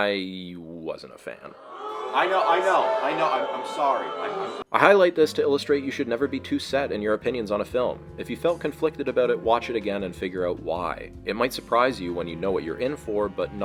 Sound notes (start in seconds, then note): 1.5 boos